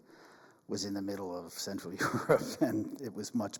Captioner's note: chuckles